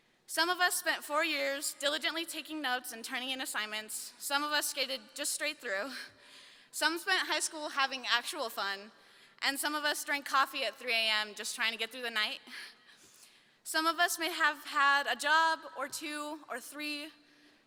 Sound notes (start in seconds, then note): none